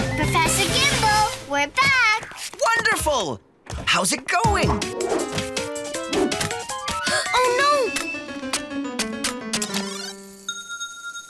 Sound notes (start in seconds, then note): 7.0 gasp; 10.0 soft tones play